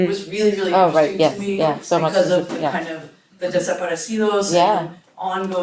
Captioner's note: non-english speech